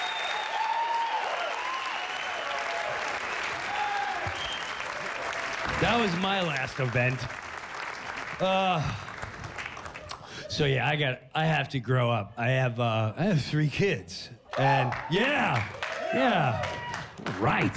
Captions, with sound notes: THAT WAS MY LAST EVENT. AH. SO, YEAH, I HAVE TO GROW UP. I HAVE--I HAVE THREE KIDS. [audience cheers] YEAH! YEAH. RIGHT.